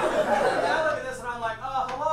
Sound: audience laughs

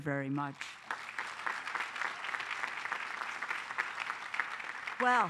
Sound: applause

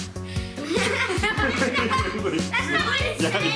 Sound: laughing

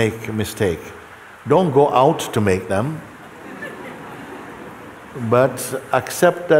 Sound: laughter

